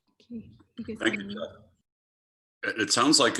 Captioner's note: talking quietly